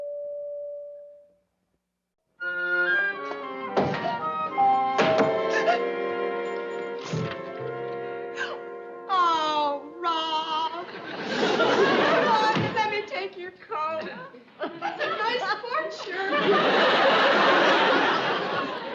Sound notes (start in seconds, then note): 5.0 doorbell rings